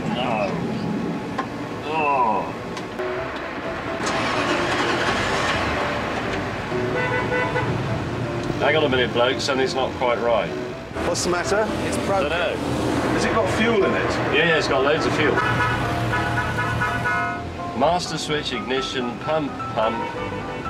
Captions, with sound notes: (Engine sputters) Hang on a minute blokes. Something's not quite right. - What's the matter? - It's broken. - Has it got fuel in it? - Yeah, it's got loads of fuel. (Horns sound) - Master switch. Ignition. Pump. Pump. - (Horn)